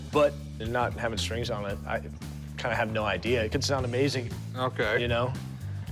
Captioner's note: none